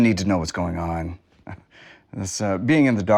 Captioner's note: laughs